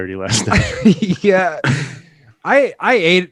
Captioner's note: laughs